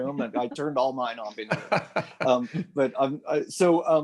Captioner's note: laughter